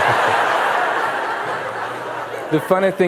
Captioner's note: laughter